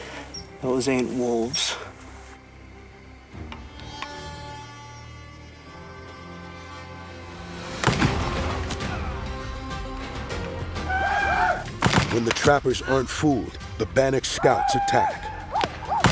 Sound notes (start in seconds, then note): 7.8 gunshots; 10.3 war cries